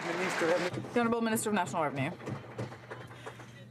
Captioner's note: some Applause